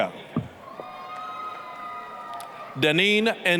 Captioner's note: applause, cheering